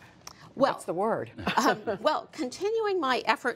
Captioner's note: laughter